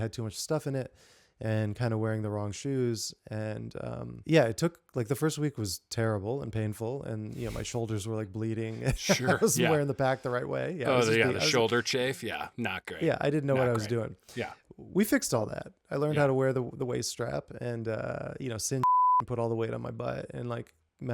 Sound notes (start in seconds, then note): 8.8 laughing